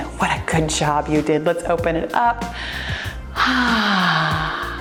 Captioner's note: sighs